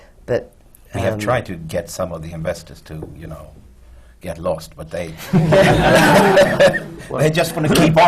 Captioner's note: laughter